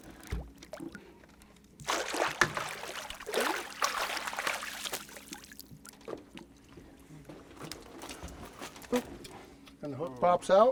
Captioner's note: fish splashing